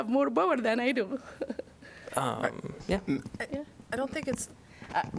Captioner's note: laughter